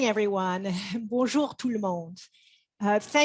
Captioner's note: speaks French